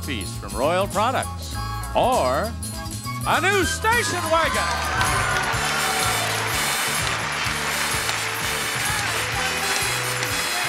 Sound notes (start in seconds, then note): 4.3 audience cheering; 4.4 audience applauding; 7.4 upbeat music